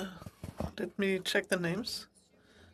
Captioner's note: speaking French